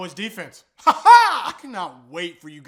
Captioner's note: weird laughing